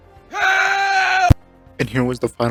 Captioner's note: screaming